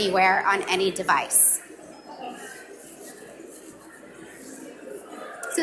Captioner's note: audience mumbling